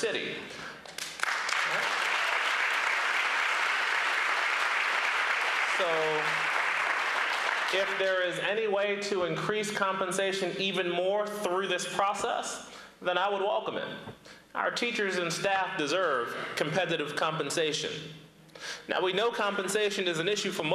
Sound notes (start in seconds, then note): 6.3 applause